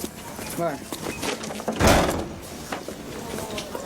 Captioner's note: trunk slamming